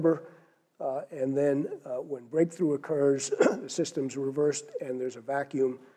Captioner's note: cough